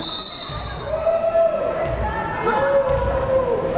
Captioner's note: whistle blares